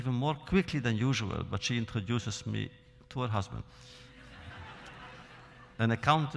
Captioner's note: laughter